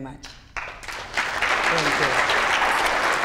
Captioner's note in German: Beifall